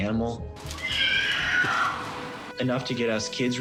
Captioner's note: screeching